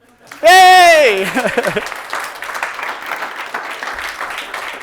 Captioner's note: audience applauding